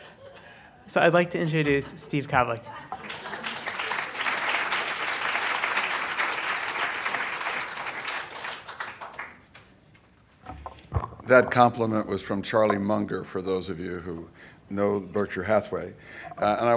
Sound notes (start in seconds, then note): 3.0 applause